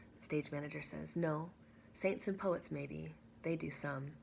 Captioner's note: none